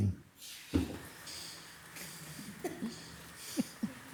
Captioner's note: speaker chuckles; laughs